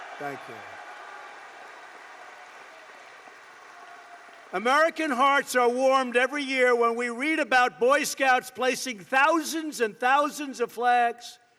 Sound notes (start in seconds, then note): 2.2 applause